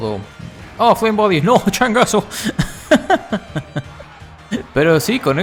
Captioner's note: laughs in Burned monkey